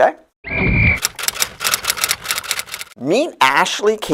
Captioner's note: SFX: Referee’s whistle. Typewriter